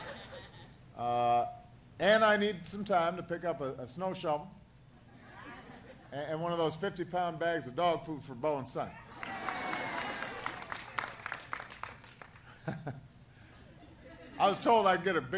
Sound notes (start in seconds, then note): 0.0 laughter; 12.4 applause